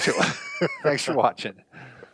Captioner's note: laughs